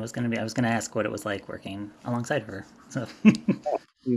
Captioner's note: laughs